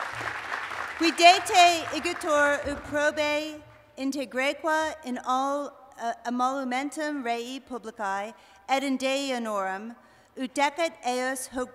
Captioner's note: speaking latin